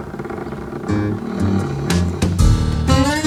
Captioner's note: creaking